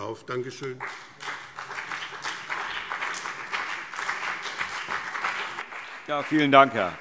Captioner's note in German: Beifall BÜNDNIS 90/DIE GRÜNEN und CDU